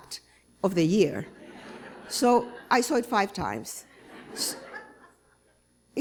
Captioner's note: laughter